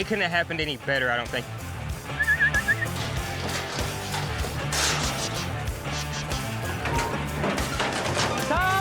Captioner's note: whistling